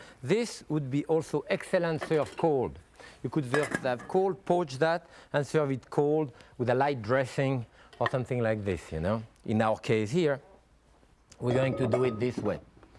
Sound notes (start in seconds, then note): none